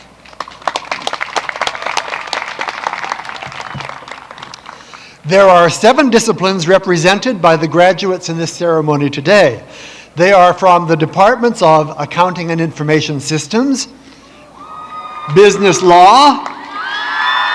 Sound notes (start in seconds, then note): 3.1 applause